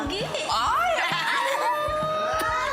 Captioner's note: both squealing